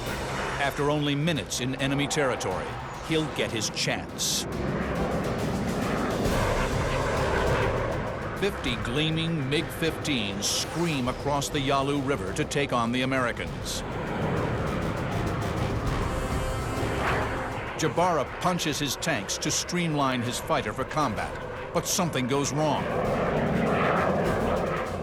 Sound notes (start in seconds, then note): 4.9 engines blaring